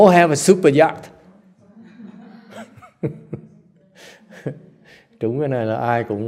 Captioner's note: laugh